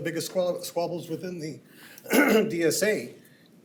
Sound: clears throat

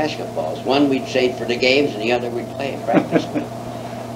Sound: laughs

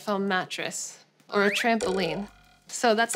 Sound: spring boings

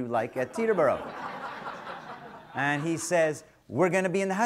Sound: audience laughter

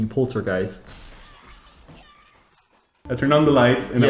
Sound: doors crashing

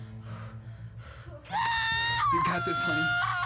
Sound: panting, exhaling; screaming

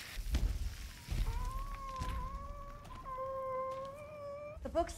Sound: moans of pain

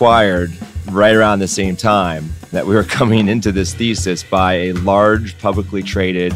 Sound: laughs

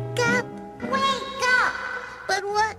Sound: echoes

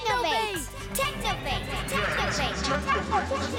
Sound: echoing

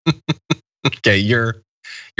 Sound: laugh

